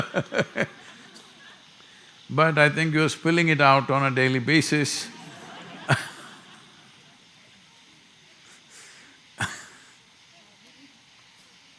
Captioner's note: laughter; laughter